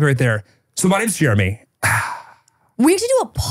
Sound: sighs

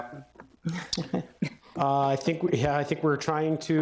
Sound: all chuckling

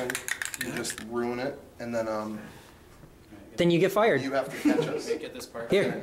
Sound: background laughing

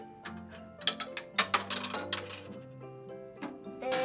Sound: quarter clinking

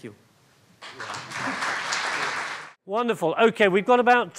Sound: audience applauds

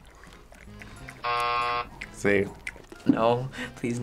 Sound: buzzer

